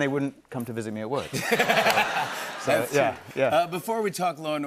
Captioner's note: laughter